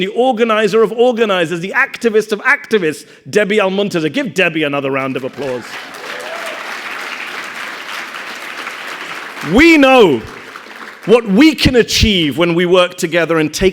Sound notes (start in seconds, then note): 5.0 audience applauding; 5.1 audience cheering